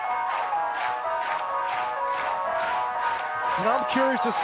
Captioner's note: clapping